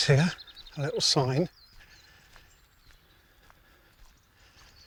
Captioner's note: birds chirping